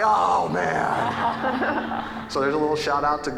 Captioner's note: audience laughing